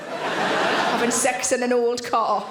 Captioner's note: audience laughing